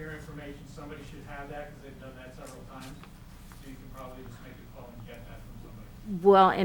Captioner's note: speaking off mic